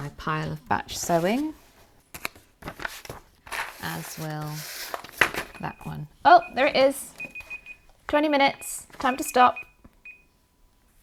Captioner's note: beeping